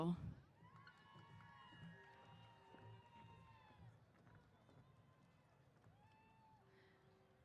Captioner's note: cheers